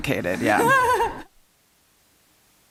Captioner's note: laughs